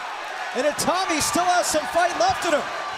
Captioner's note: crowd cheering